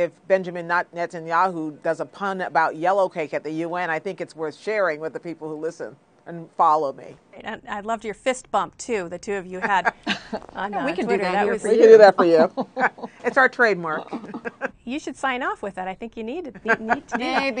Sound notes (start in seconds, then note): 14.0 laughter